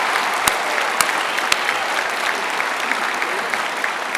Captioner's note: applause; cheering; applause